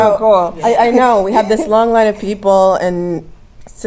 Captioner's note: laugh